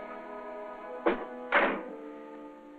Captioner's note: door closes